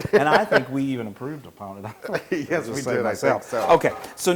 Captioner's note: laugh; laugh